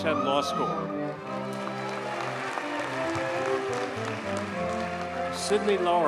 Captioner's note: audience cheers and applauds